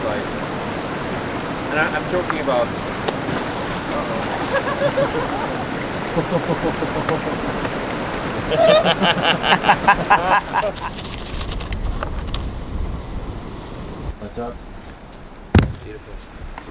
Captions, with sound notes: I'm talking about-, uh-oh. (laughter) Beautiful.